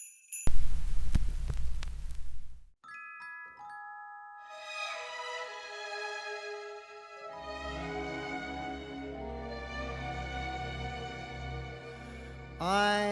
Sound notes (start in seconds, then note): 0.4 record static; 3.0 jazzy festive music